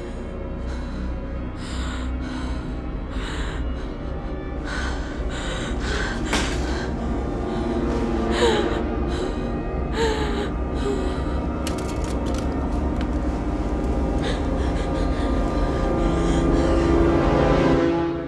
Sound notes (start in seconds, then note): 1.3 music intensifies; 6.3 glasses drop